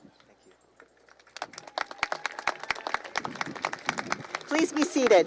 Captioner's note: applause